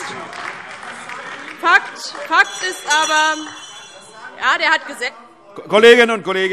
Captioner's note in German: Weitere Zurufe AfD - Glockenzeichen